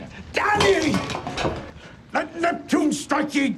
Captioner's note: bottle clanking